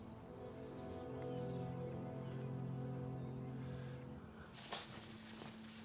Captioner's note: slow somber music; birds chirping